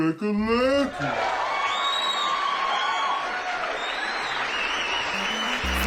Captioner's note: audience cheers